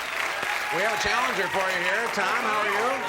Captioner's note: cheers